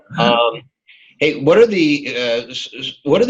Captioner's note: laughs loudly